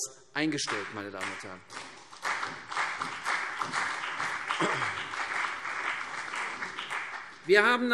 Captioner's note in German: Beifall CDU und BÜNDNIS 90/DIE GRÜNEN